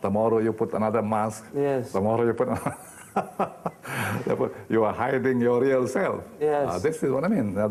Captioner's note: laughing